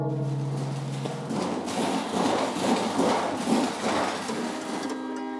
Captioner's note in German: Donnern und Scheppern